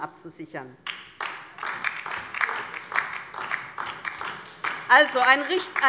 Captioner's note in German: Beifall DIE LINKE